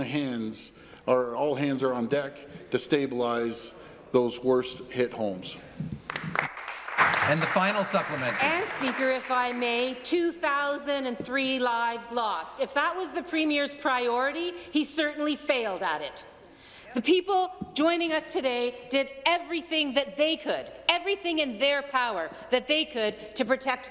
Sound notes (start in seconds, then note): 8.8 some Applause